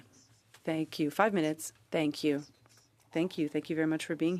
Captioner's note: speaking French